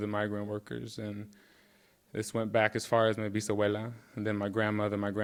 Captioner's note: speaking in Spanish